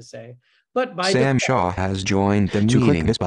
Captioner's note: voiceover